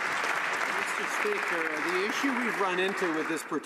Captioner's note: some Applause